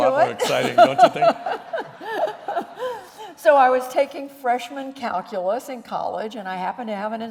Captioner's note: laughter